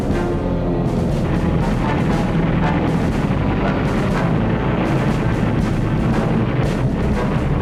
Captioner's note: gunfire and explosions